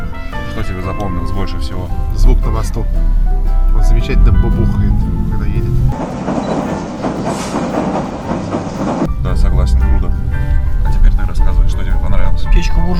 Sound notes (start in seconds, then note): 6.2 train: thundering